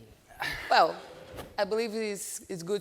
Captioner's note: sighs